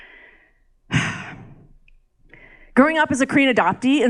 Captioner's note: presenter sighs